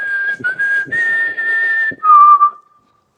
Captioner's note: whistles